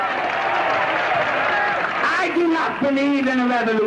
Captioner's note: applause and Cheering